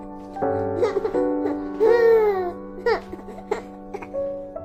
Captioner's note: baby crying